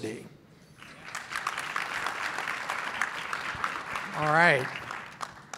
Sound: clapping

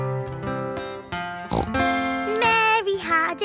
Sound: playing guitar; snorts

